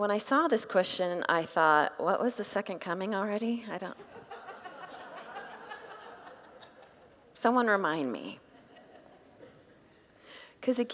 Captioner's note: congregants laugh